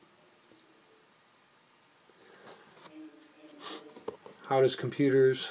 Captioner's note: no sound